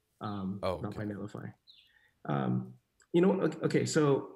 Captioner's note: none